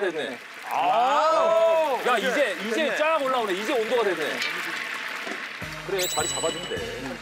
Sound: sizzling

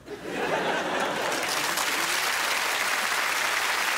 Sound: applause

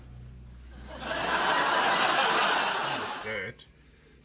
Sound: laughter

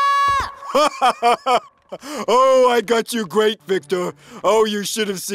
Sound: laughs

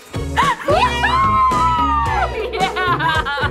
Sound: all cheer

